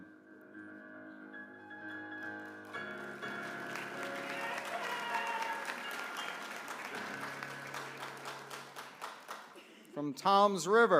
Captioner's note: applause